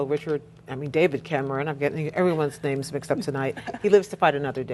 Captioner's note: laughter